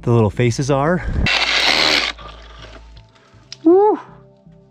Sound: buzzing drilling

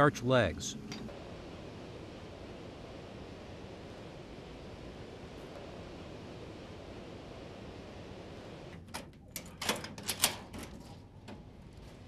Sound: machinery noises

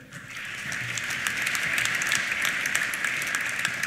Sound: applause

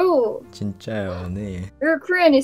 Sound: Korean

